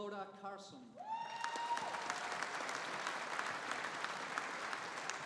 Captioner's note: audience applauding